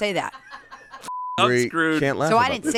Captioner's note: beep